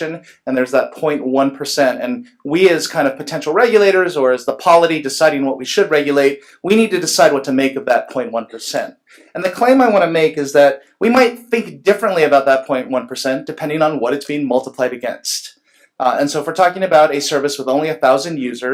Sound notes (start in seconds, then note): none